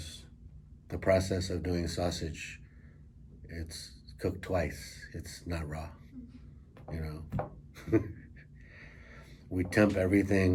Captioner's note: chuckles